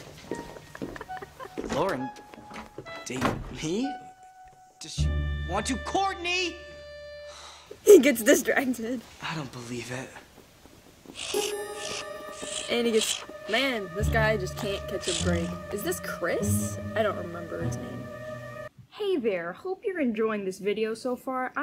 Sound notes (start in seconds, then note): 0.5 laughing; 11.1 chirps